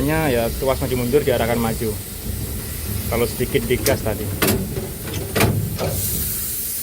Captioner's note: throttle